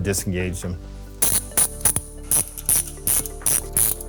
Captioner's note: ratcheting